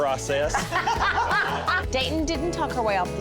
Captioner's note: laughter